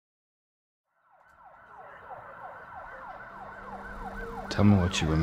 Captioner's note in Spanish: sirena ululando